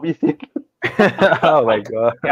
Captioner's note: laughter